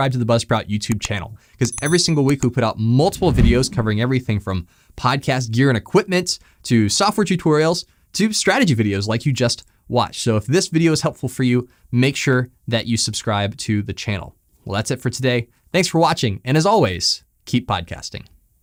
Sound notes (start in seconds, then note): 1.7 graphic clicking and ringing; 3.0 graphic whooshing